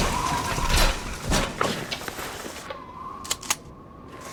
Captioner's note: blade clinks; parts clatter on the ground; wind whistles; robot head clangs; shotgun cocks